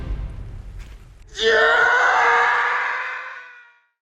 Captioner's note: enter the scream